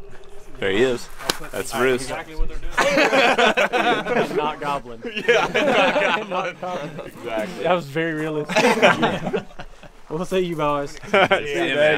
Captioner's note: all laughing at how ridiculous they are